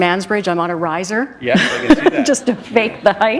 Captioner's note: laughter